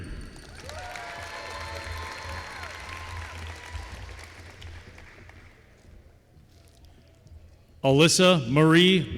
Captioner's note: applause